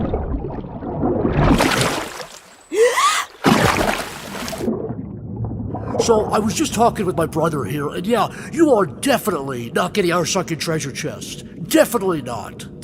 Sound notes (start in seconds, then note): 2.7 gasps